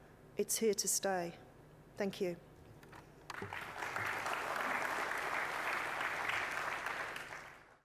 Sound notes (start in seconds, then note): 3.2 applause